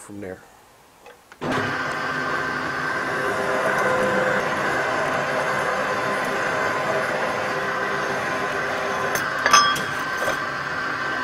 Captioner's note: machine Noise